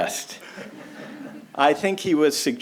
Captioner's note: audience laughs